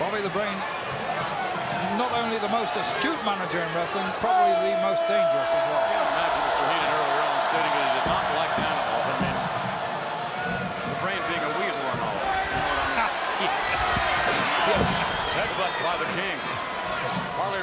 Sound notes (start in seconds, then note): 13.1 laughs